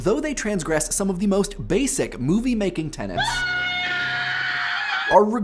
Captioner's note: screams